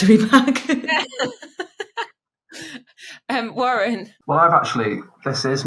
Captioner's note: laughing